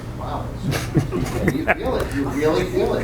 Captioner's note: laughing drowns out speaker